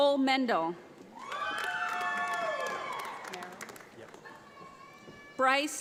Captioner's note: audience applauds